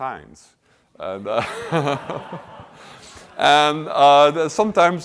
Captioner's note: laughter